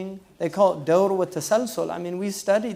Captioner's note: foreign language